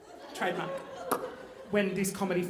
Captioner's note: popping